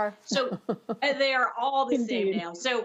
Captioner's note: laughter